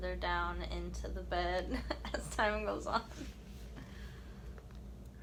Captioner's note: chuckling